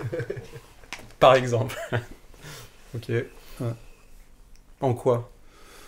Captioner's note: laughs